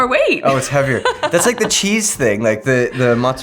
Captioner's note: laughs